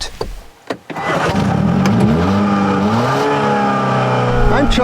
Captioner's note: engine starting up sfx